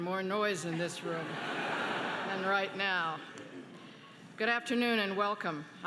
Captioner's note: laughing